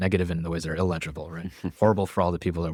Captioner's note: laughs